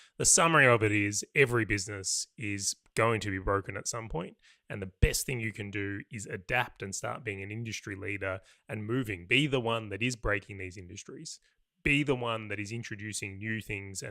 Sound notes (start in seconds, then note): none